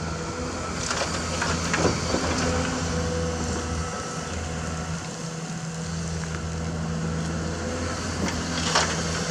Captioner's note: engine Rev